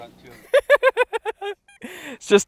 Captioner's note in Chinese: 惨笑